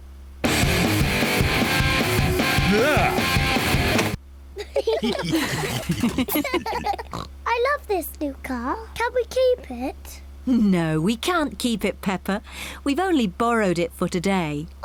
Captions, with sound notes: (HEAVY ROCK MUSIC PLAYING) Argh! (ALL LAUGHING) I love this new car. Can we keep it? No, we can't keep it, Peppa. We've only borrowed it for today.